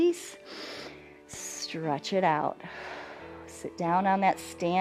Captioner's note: inhales